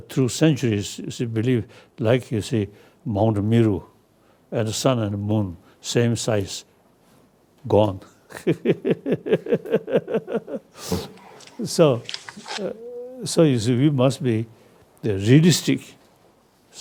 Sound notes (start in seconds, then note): 8.4 laughs loudly